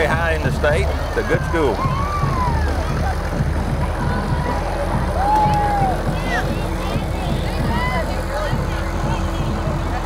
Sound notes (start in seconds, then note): 4.0 band playing continues; 4.0 people cheer